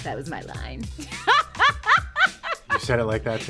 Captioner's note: laughing